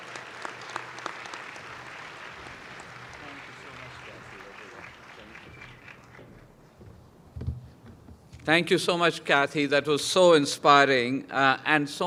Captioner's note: applause